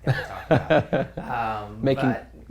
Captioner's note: laughs